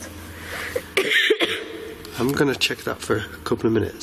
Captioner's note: coughs